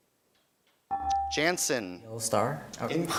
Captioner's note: beeping